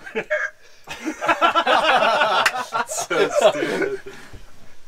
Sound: everyone laughing

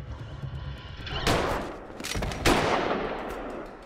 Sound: gunshot

